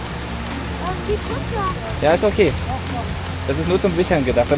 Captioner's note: speaking German